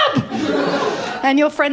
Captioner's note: laughter